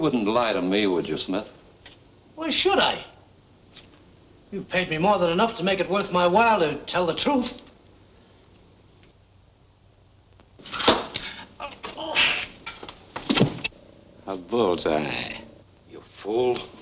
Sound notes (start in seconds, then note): 10.6 thumping; 11.2 groaning